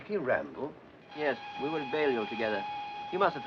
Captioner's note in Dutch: treinfluit blaast